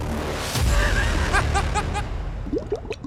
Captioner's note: laughter